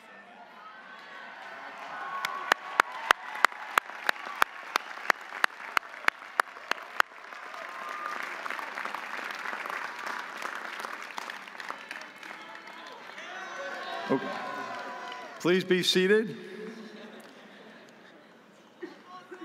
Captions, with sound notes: (audience cheering) (audience applauding) Please be seated.